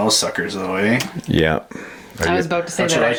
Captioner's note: voiceover